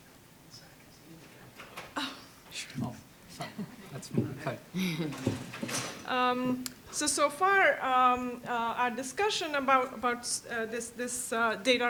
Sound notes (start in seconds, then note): 0.3 man whispering; 2.5 man muttering